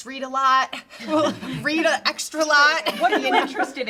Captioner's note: all laughing